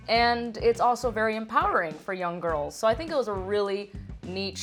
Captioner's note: none